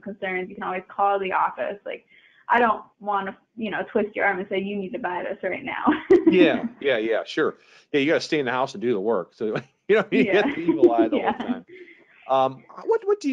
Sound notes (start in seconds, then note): 5.8 chuckling; 9.9 both laughing